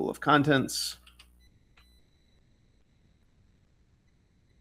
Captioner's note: mouse clicking